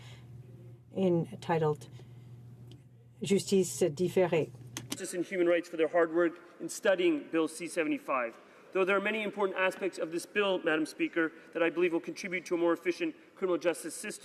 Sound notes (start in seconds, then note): 9.2 speaking in French